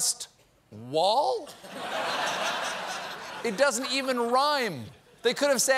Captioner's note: laughter